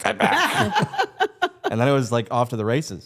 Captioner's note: Stephanie laughs